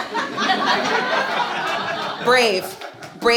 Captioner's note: audience laughs